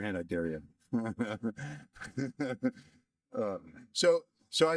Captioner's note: laughter